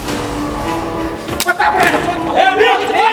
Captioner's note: slap